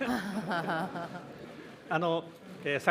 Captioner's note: laughter